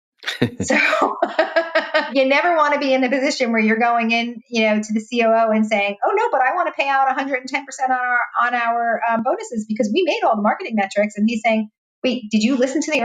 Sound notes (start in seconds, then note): 0.2 laughing; 0.2 laughs